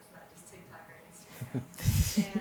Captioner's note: chuckles